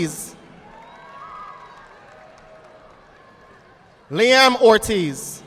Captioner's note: audience applauding